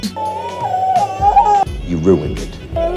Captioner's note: cries